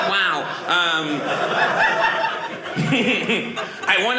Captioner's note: audience laughing